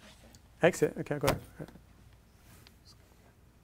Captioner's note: none